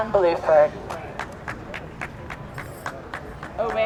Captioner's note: scattered applause